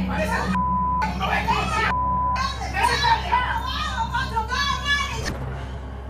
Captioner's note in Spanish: gritan; gritan